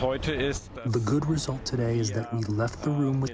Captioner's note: through translator